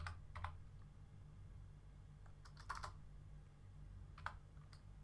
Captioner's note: keyboard typing